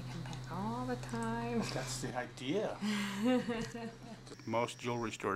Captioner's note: laughing